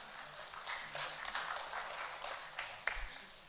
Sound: applause

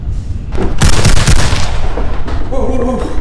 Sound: gun firing

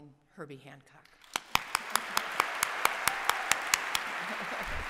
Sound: applause

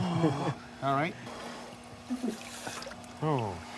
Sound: heavy breathing

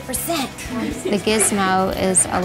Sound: students laughing

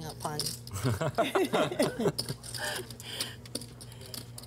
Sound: laughing

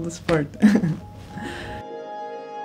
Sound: chuckles; upbeat music

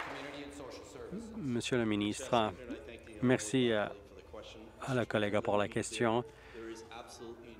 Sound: applause

